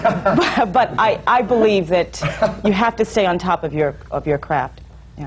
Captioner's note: laughter